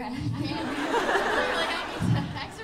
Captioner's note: laughter